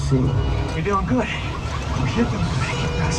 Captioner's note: car alarm ringing